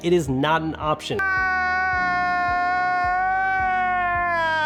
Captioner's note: wailing